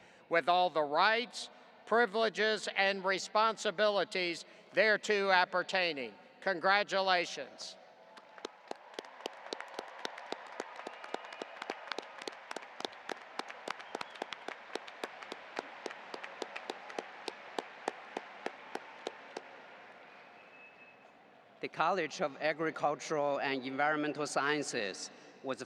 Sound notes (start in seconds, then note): 8.0 audience applauding